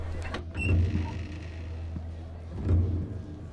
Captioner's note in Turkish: Kapı Gıcırtısı Sesi